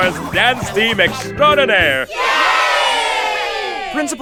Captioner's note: cheer